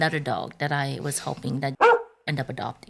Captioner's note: bark